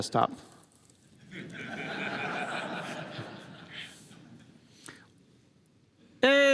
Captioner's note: laughter